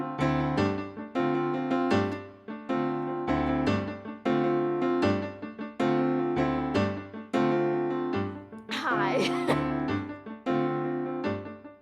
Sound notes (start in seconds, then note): 8.8 chuckling